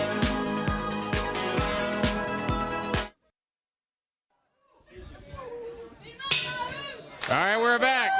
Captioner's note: crowd chatter